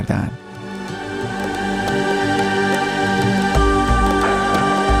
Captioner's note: cheers